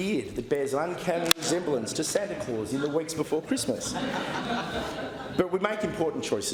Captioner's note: laughter